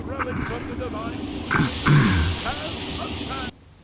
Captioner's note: priest rambling loudly; clears throat; priest rambling loudly